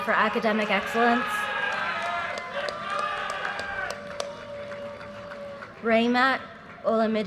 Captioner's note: audience cheers and applause